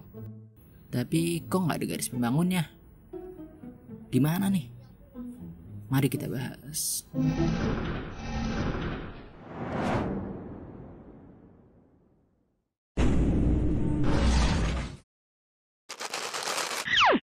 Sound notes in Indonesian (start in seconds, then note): 7.2 SFX: Tutup gerbang; 9.3 SFX: Woosh; 15.9 SFX: Krenyes dan jatoh